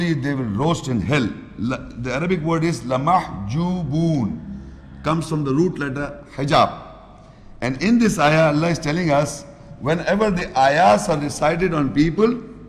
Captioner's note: Arabic